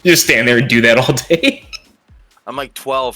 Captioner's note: squeak